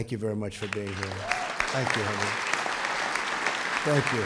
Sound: applause

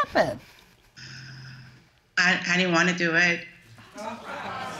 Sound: exhaling

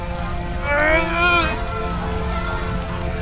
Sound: Blaze grunts

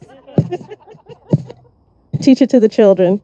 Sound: audience laughing

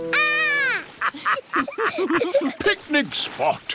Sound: laughter

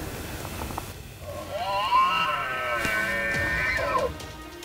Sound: elk Bugles Very Close

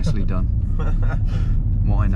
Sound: laughing

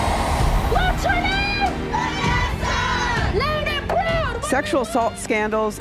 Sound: crowd

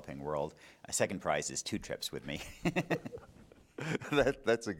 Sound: laughing

